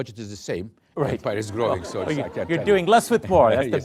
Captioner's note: laughter